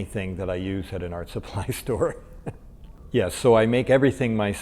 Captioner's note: laughs